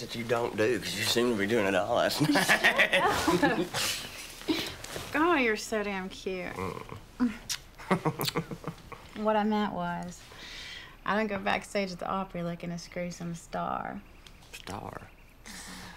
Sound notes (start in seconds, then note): 2.0 laughing; 7.7 chuckles